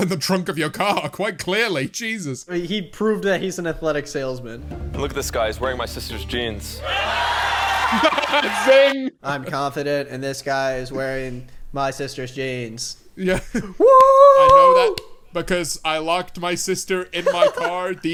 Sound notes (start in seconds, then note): 6.8 audience laughing; 13.8 whooping and clapping